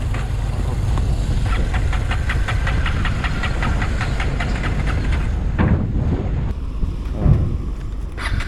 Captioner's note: engine won't start